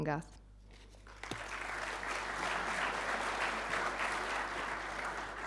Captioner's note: audience applauding